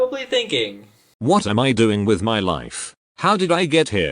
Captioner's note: text to speech